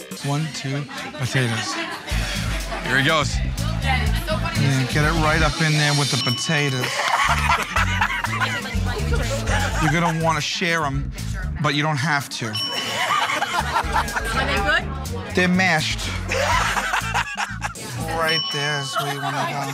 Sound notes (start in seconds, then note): 4.2 chattering; 6.8 laughing; 12.5 ding; 12.7 laughing